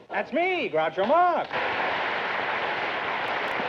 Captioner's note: applause